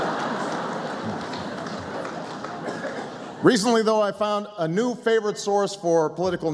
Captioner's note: laughter